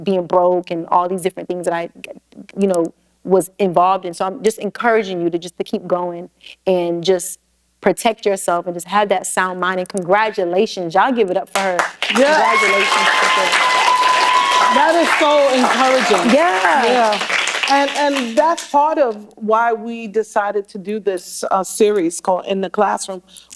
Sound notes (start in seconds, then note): 11.5 applause